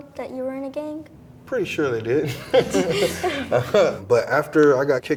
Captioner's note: laughs